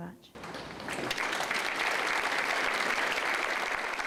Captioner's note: applause